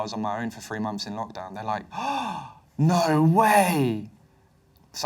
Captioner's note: gasp